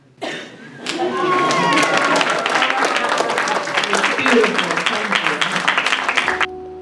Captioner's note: cheering and applause